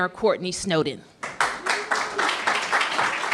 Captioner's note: applause